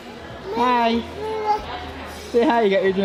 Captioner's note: baby chattering